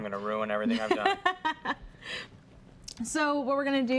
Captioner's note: lightly laughs